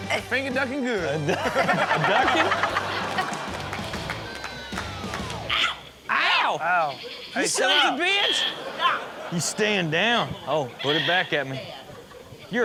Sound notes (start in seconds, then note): 1.1 audience laughs; 6.9 audience laughs